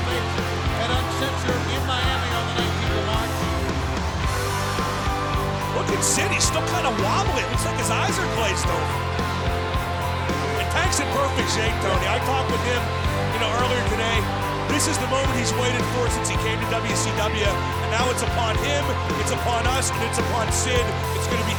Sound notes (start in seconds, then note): 3.7 crowd cheering